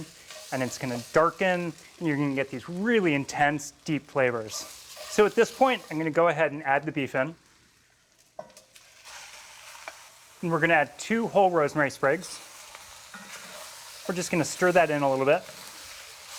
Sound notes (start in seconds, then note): 7.8 sizzling